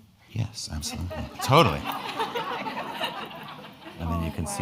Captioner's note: crowd laughing